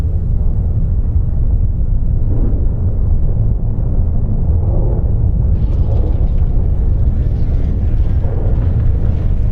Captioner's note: earth trembling